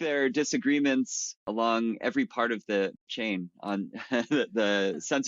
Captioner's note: chuckles